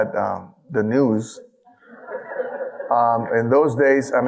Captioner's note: audience laughing